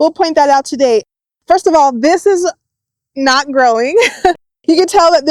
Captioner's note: laughs